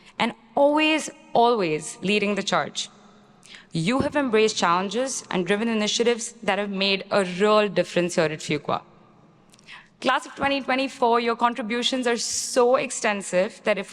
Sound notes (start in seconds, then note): none